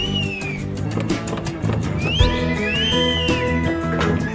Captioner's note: whistling